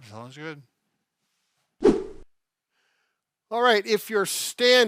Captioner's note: whooshing